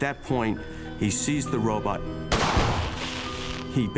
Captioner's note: gun shot